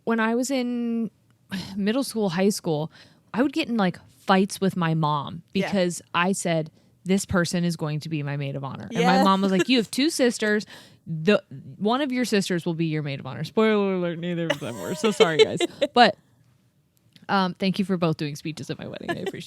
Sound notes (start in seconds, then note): 14.5 laughs